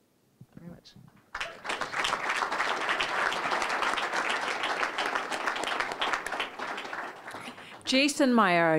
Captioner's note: applause